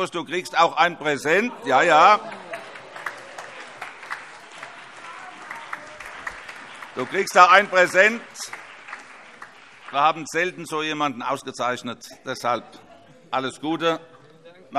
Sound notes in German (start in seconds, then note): 1.9 Beifall